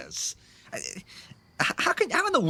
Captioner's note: Grimes stumbles over his words